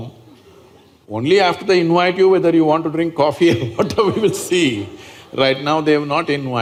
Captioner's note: laughs